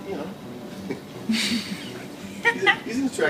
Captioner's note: laughing